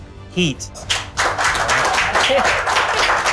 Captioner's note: applause